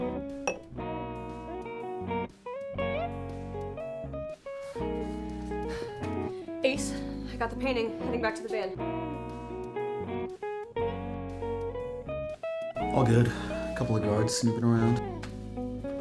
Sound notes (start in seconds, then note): 0.4 glass clinks; 4.6 Spade breathes heavy